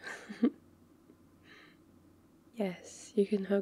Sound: laughs

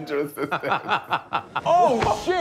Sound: laughing

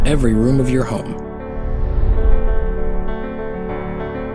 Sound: whoosh!

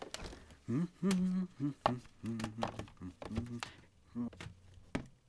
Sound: humming

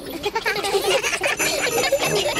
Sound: all giggling

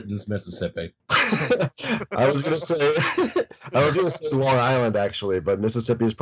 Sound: laughter

